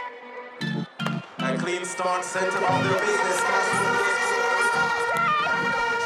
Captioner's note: hip hop instrumental; horn blowing